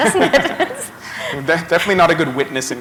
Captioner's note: laughter